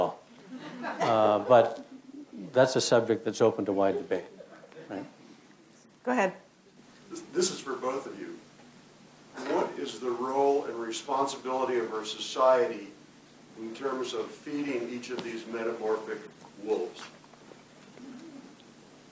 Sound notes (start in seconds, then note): 0.4 crowd laughs